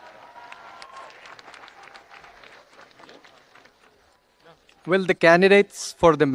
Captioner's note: audience applauding and cheering